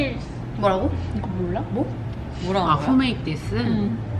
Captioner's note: confused crowd noises